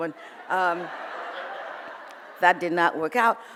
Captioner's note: audience laughs